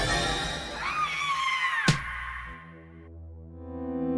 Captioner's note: scream & Thump